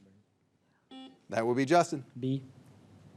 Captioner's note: signal beeps